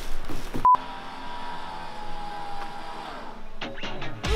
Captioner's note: electronic beep; winch whirring; upbeat rock music